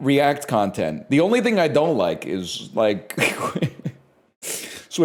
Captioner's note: cracks up